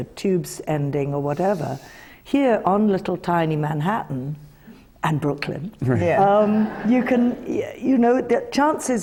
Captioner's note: laughter